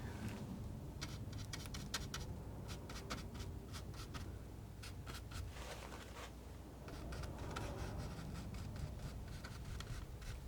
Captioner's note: scratching